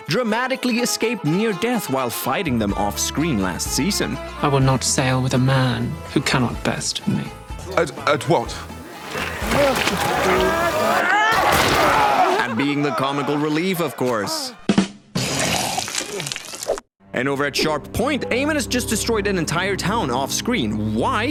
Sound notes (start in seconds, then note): 11.3 grunts; 15.3 vomits